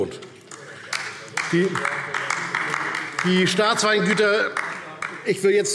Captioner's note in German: Beifall DIE LINKE